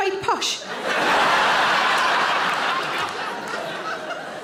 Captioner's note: audience laughing